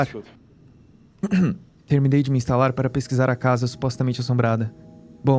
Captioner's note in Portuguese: pigarro